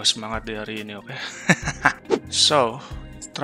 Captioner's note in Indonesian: ketawa